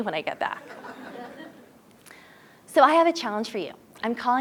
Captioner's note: laugh